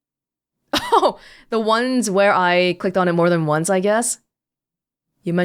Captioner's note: chuckles